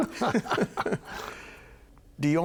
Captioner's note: both chuckling